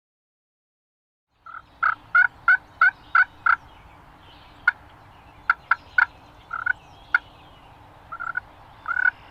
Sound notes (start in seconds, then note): 1.3 birds chirp; 1.7 turkey call